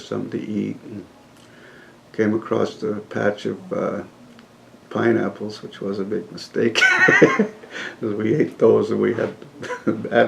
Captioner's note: laughs